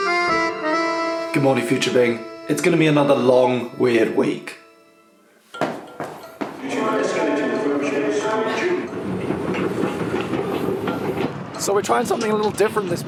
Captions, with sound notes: Good morning future me. It's gonna be another long, weird week. (footsteps) (radio announcement) (escalator running) - So we're trying something a little different